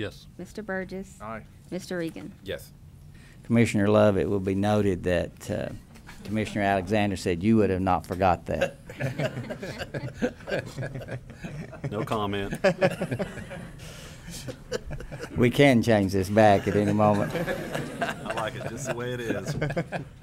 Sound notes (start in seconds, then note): 8.5 laughter; 16.5 laughter